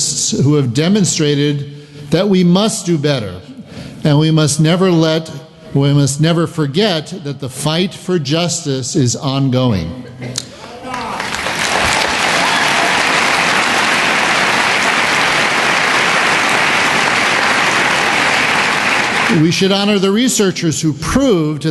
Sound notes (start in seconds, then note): 10.6 applause